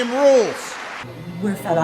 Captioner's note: applause